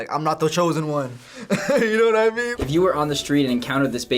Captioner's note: chuckles